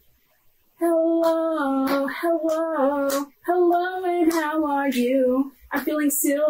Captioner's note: clapping